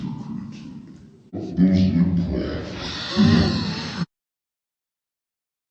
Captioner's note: laughter